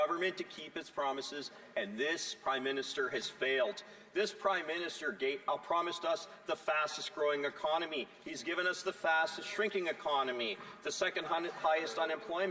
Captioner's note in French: voix de l'interprète